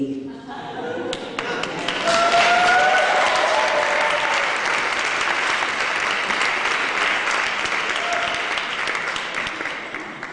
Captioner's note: laughter and applause